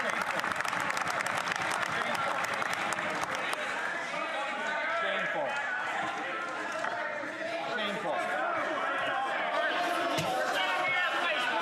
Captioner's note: some Applause